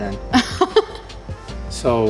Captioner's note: laughs